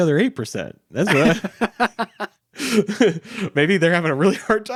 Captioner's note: laughing